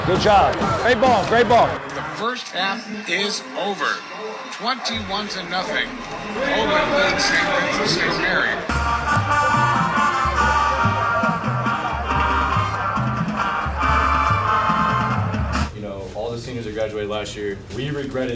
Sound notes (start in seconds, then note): 2.6 radio Announcer; 9.2 parade music